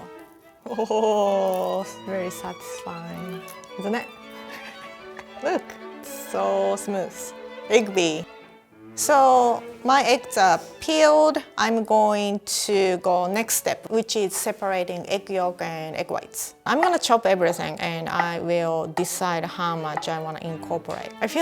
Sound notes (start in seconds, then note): 4.4 laughs